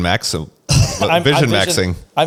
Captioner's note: laughs